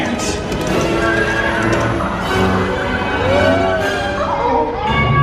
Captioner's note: horses whinny